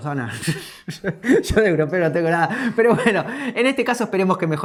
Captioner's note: laughs